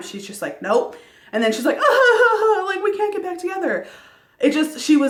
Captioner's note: sobbing